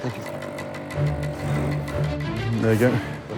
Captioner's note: buzzing